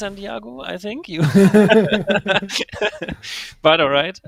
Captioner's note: all laughing